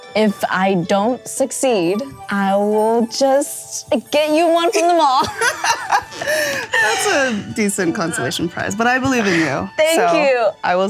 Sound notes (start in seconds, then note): 4.7 laugh